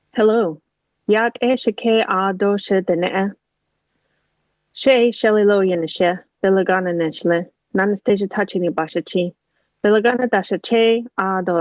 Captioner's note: non-english speech